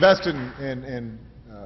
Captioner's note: applause